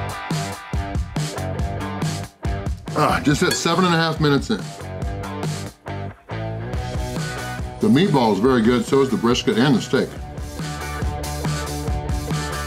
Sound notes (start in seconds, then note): none